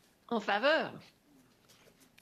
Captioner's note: speaking French